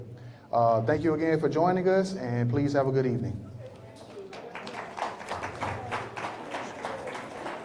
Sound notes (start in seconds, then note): 3.9 applause